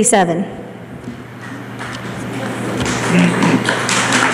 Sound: applause

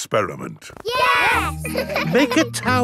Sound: laughing

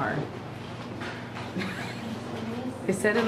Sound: chuckles

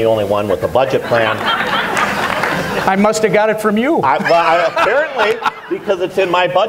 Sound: laughter

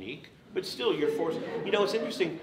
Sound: audience laughs

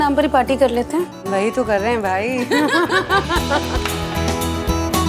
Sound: all laughs

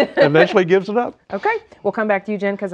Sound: laughing

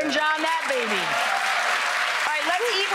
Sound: audience cheering

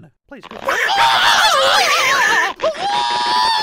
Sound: Donald Duck and Mickey howl in terror

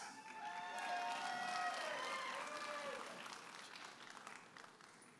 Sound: audience applauding and cheering

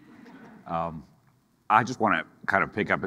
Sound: audience laughing

